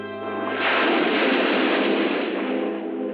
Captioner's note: waves crashing